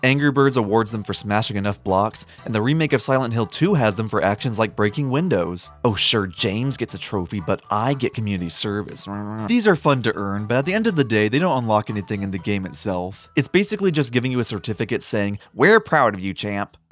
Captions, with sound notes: Angry Birds awards them for smashing enough blocks, and the remake of Silent Hill 2 has them for actions like breaking windows. Oh sure, JAMES gets a trophy, but *I* get community service. *Grumbling* These are fun to earn, but at the end of the day, they don't unlock anything in the game itself. It’s basically just giving you a certificate saying “We’re proud of you, champ!”